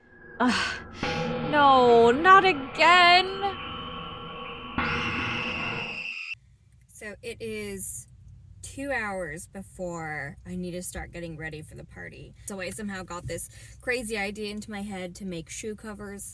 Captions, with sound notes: NO!!! Not again!! [Spooky Music] [Dramatic Screaming] So it is 2 hours before I need to start getting ready for the party. So I somehow got this crazy idea into my head to make shoe covers.